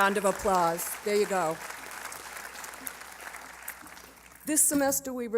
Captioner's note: applause